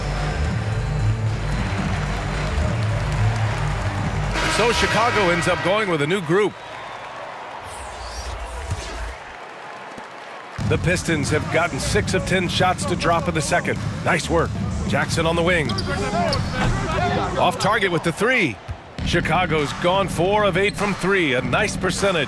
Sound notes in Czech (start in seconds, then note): 9.9 Potlesk